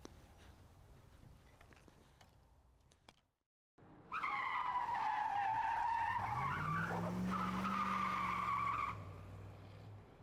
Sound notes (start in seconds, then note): 4.0 tires squealing